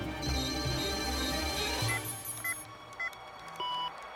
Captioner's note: beeping